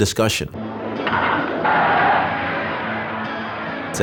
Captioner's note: bat strikes ball, cheers